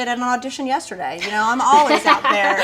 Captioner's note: laughing